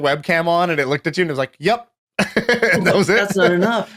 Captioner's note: chuckles